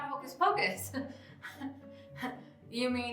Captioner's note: chuckling